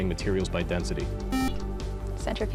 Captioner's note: buzzer